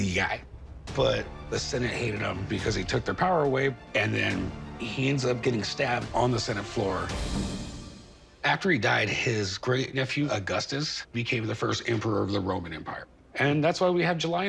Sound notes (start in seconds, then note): none